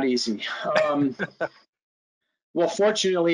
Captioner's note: laughing